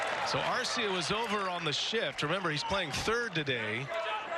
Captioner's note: cheering